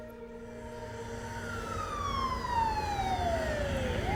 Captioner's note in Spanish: sirena de la ambulancia